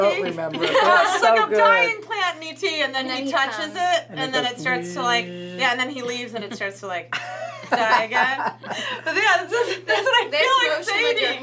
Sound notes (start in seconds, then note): 4.2 buzzing noise; 7.1 everyone laughs